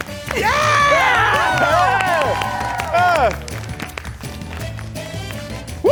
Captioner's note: audience cheering